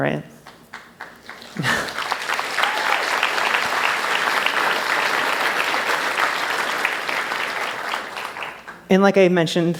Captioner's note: applause